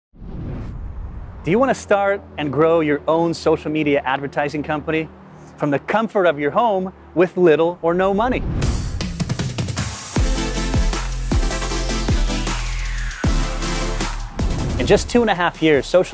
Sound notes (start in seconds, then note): 0.1 whooshing sound; 8.7 upbeat music